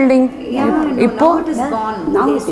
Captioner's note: in Tamil